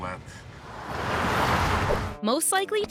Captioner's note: car rumbling